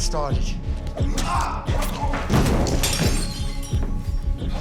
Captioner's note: Theo grunting